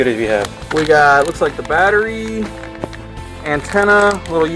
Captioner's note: voiceover